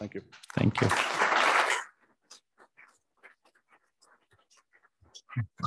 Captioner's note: applause